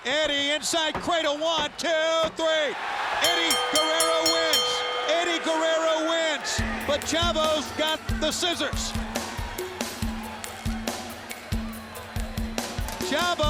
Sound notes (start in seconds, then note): 3.2 bell ringing; 9.2 mellow percussive music